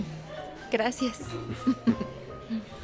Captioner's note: Ambos ríen